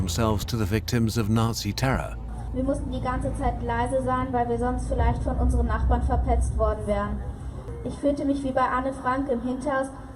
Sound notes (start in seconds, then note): 2.2 speaking German